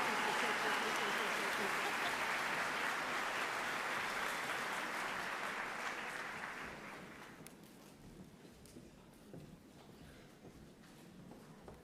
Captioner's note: applause